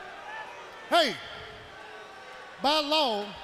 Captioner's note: crowd chatter